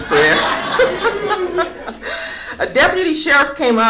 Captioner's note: laughter